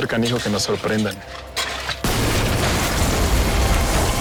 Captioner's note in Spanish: Explosión